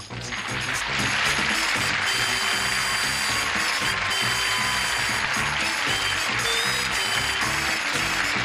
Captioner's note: applause, theme music